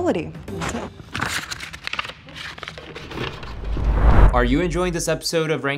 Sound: paper rustling

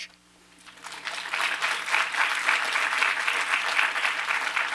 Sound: applause

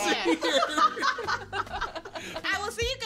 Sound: all laugh

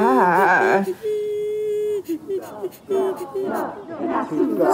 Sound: muffled shouting

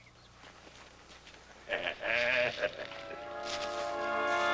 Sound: chuckling

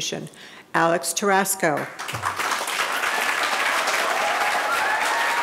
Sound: audience applauding

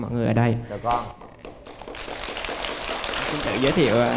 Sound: clapping

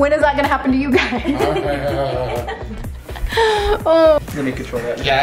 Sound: laughs

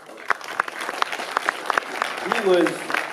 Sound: applauding

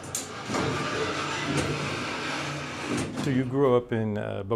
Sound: mechanical sounds

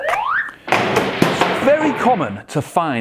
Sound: crashing

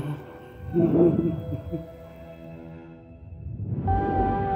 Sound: female humming stops; solemn orchestral music and electronic warbling continues

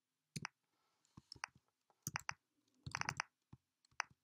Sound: keyboard clicking

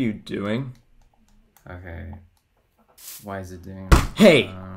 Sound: airy muttering to himself

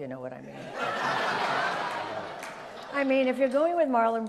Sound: audience laughs

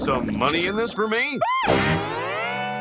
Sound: squealing

